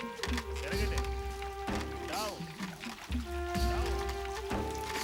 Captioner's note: speaking foreign language